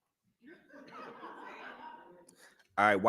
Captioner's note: laughter